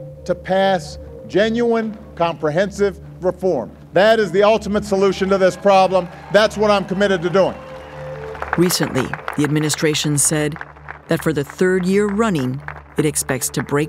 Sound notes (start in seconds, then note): 7.3 applause